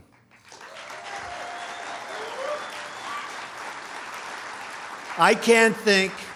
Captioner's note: applause